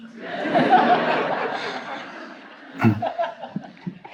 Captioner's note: audience laughing